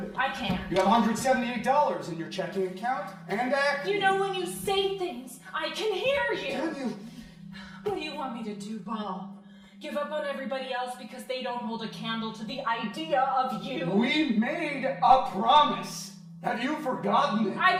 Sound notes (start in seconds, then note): none